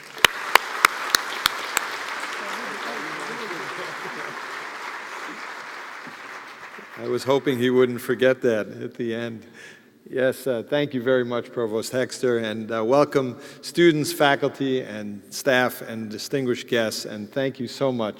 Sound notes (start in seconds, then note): 3.3 applause